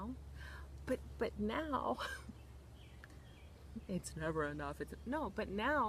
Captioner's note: laughs